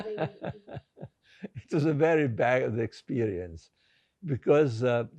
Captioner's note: laughing